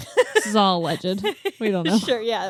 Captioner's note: laughs